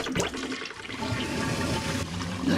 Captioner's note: toilet flushing